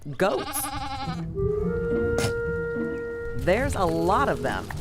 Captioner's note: sound of goat's bleat